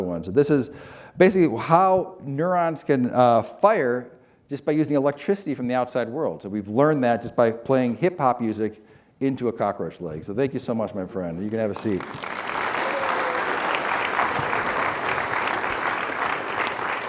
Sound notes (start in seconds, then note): 11.7 applause